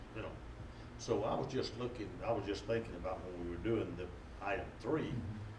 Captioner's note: none